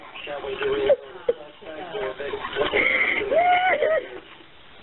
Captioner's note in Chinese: 哭泣